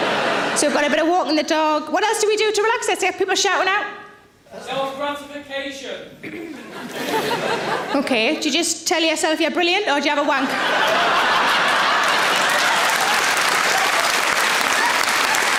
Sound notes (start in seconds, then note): 6.4 audience laughing; 10.3 audience laughing; 10.7 audience applauds